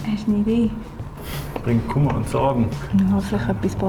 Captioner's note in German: schnaubt